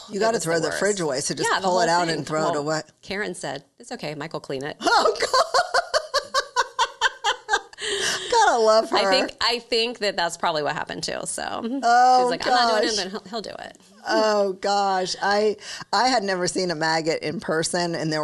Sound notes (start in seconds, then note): 4.9 laughing